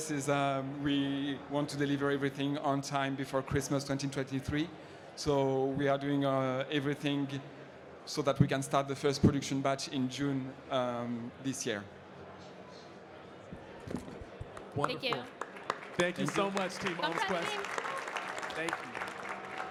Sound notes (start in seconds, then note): 18.1 audience clapping